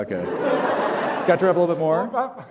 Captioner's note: laughter